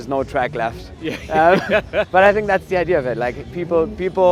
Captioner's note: laughs